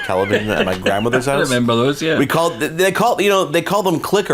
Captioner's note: laughs